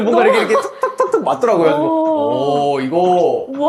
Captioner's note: knock knock